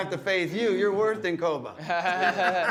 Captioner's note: laughter